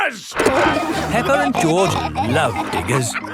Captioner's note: peppa and george laughing